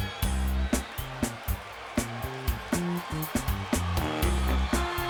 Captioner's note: crowd cheering